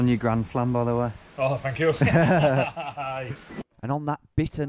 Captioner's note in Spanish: risa de presumido